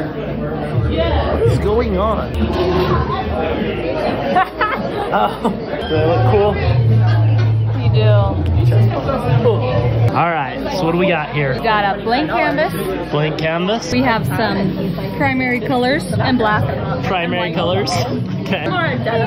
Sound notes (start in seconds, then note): 4.9 laughs